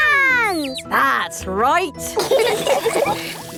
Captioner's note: all laughing